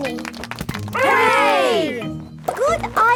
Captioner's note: crowd applauding